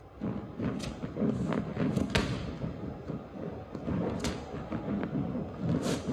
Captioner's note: ball moving on ground